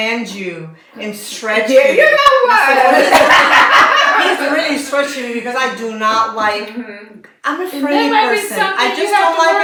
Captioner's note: laughter